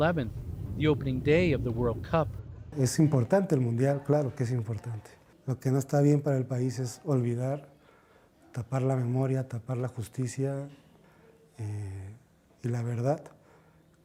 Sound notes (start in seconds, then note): 7.9 speaking alternate language